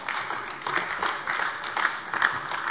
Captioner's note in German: Beifall AfD